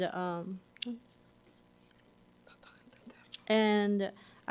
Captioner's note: whispering